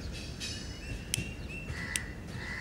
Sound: flick of lighter

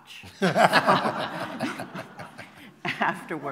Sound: laughter

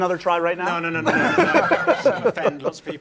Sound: laughing

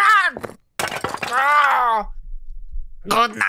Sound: ugly Statue Smashing

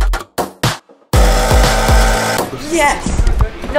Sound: bass drop music; whirrs

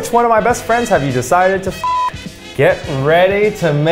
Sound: beep

